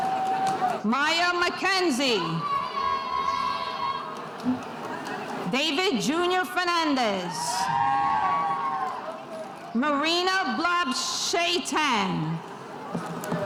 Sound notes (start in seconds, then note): 3.0 spectators cheering; 7.2 spectators cheering